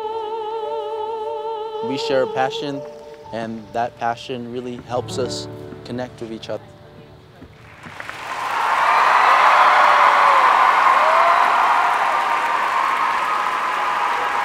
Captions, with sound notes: We share a passion and that passion really helps us connect with each other. (applause)